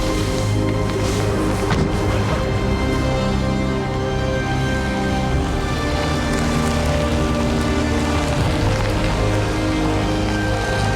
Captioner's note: car Sound